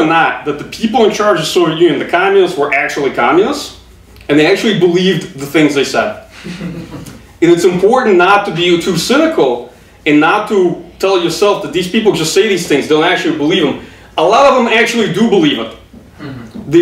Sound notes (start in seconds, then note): 6.3 audience chuckling